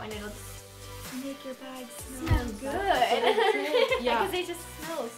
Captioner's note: laughs